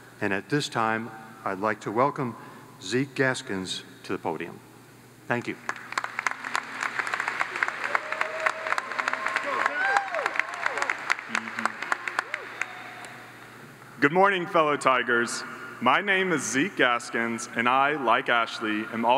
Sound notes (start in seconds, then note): 5.6 audience applauds